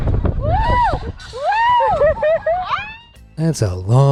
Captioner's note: riders screaming